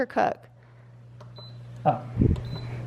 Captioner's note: beeping